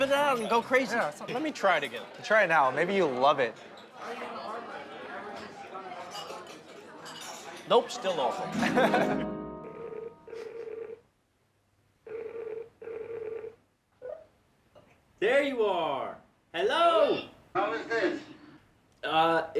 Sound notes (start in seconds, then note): 8.5 laughs; 9.2 ringing